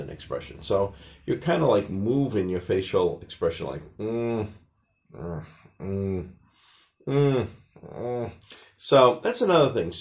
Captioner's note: more noises of grimacing